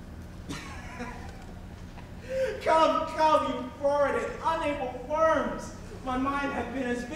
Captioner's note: laughs